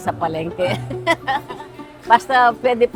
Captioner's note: laughs